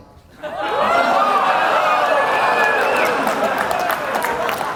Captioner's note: audience moaning